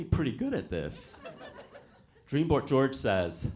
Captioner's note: audience laughs